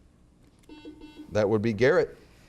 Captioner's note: buzzer beeps